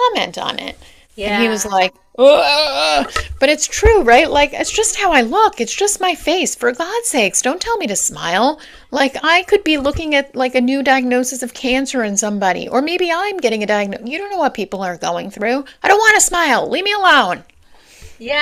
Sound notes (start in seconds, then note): 2.1 baffled noise